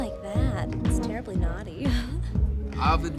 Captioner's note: laughs